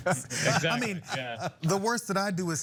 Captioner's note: laugh